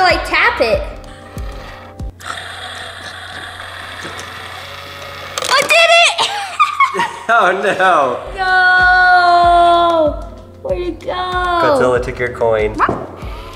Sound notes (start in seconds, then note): 2.1 gears turning; 5.8 laughs; 13.2 gears turning